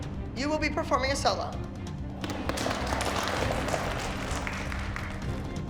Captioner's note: applause